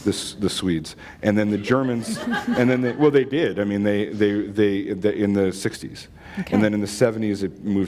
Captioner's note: laughter